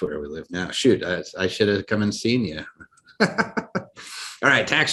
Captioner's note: laughs